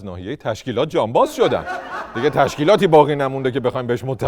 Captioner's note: laughter